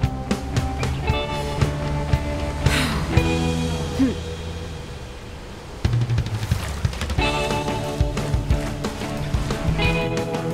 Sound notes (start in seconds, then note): 2.6 deep breath; 7.1 upbeat music